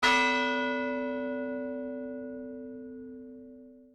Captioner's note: bell ringing